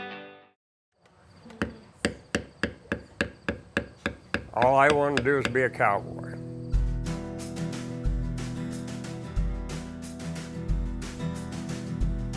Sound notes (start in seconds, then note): 0.0 rock music; 3.6 hammer banging